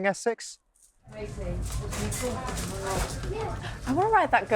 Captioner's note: people chattering